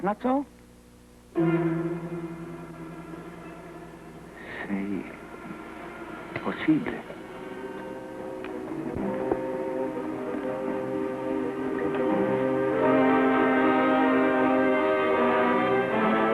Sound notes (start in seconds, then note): 1.3 suspenseful music; 3.2 Pierre speaking in foreign language